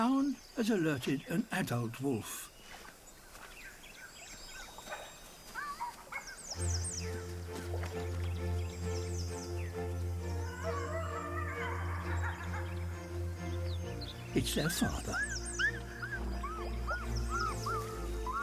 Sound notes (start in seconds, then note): 10.4 howls; 17.0 pups whimper